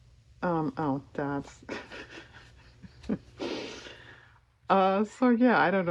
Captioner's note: laughs